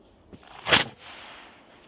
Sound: whoosh!

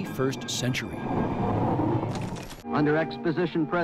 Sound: rocket engine roars

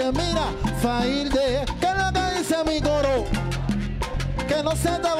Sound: speaking in Spanish

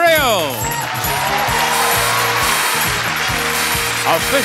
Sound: audience cheering; upbeat music

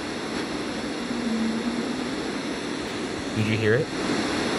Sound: faint humming

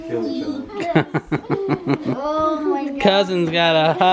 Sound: laughing

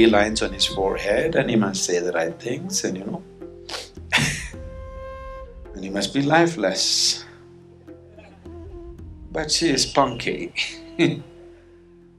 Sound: laughs

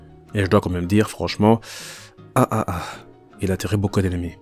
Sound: laughs

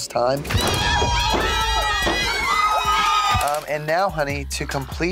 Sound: people cheering

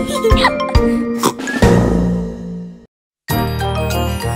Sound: snorts

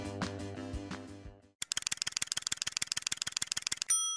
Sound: clicking sound; pinging sound

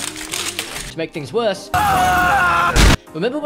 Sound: screaming

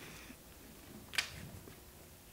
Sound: paper rustling

